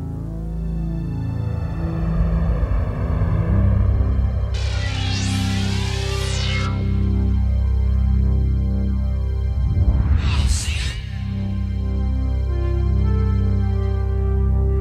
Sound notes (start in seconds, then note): 0.2 spaceship engine; 4.6 laser fires; 9.4 whispered; 11.4 dramatic music sting